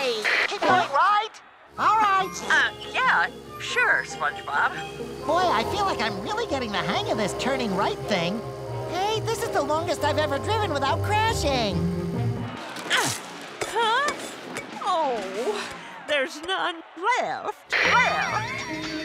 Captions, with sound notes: Keep going right? Alright. Um, yeah, sure, SpongeBob. Boy, I feel like I'm really getting the hang of this turning right thing. Hey, this is the longest I've ever driven without crashing. [grunting] Huh? Oh. There's none left. Left.